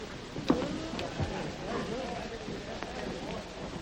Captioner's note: crowd chattering